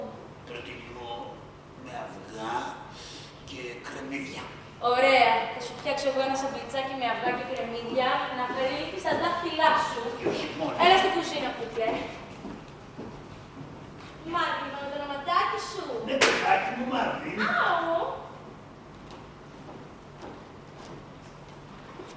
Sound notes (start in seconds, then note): 16.2 Ήχος από μπατσάκι